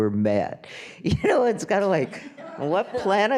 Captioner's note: laughing